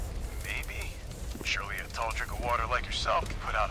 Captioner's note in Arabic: عبر الراديو